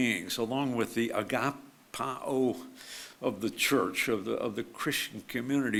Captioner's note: speaks foreign language